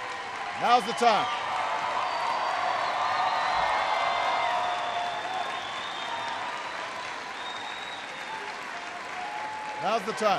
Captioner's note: applause